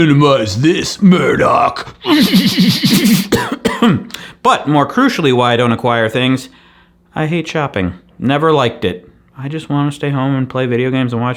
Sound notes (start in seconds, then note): 2.0 maniacal laughing; 2.0 coughing